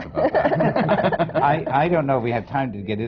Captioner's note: laughter